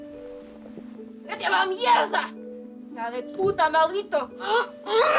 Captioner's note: speaking angrily in Spanish; grunting